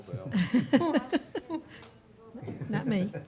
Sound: board members laughing; speaking faintly

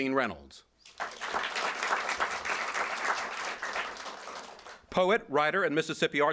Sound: applause

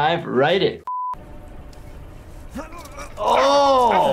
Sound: person grunting

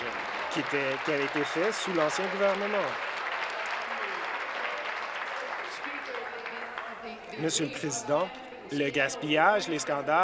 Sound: applause

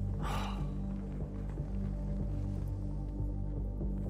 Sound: X breaths in deeply

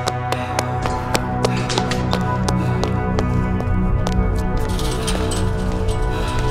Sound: footsteps continue on pavement but stop as a metal fence rattles; Heavy footsteps approach. Loam grunts

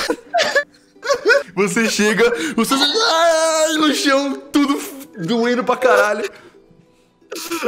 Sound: pain sounds

